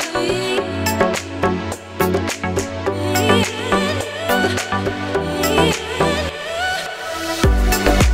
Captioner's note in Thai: ปรบมือ